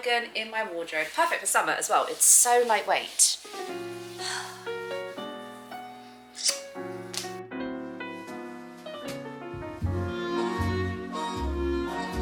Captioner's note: mwah chef's kiss noise